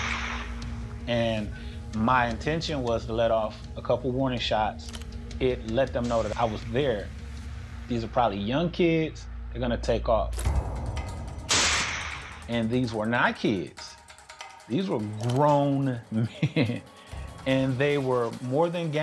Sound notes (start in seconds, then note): 10.4 gun fires; 16.0 laughs